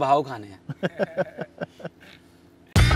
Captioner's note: Laughing